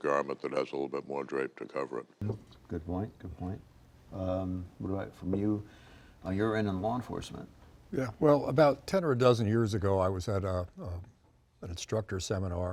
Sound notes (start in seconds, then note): none